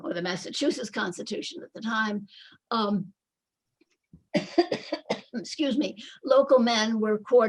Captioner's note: coughing